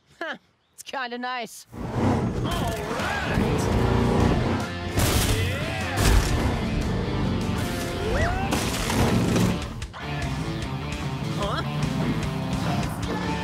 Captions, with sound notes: Huh, it's kinda nice. All right! Yeah! [shouting] Huh?